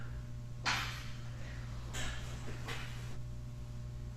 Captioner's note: something banging